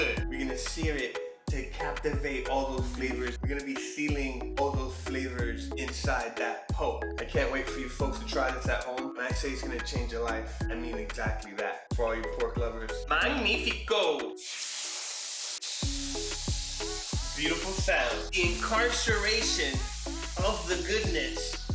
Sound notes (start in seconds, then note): 14.4 searing Sound